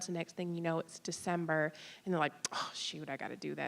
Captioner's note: none